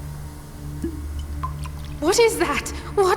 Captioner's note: potion cork pops off